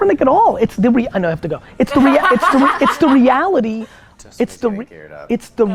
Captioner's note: women laugh